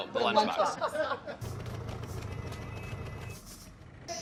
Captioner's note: laughing off camera